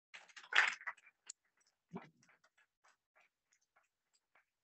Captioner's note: audience applauding